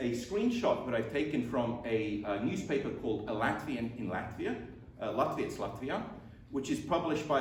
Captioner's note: latvian